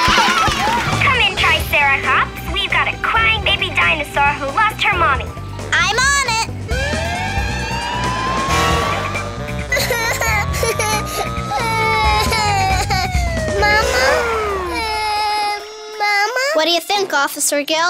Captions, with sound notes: Come in triceracops, we've got a crying baby dinosaur who lost her Mommy. I'm on it! [sirens wailing] [crying] Mama? What do you think, Officer Gil?